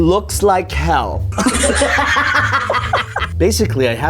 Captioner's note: both laughing